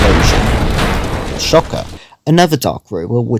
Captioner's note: electrical-Explosion